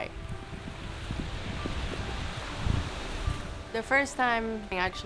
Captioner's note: ocean crashing